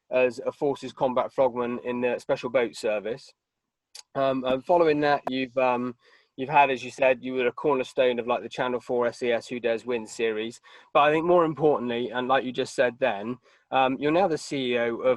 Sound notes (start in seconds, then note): none